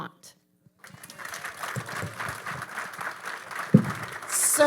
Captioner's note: audience applauding